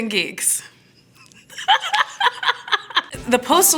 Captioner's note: laughing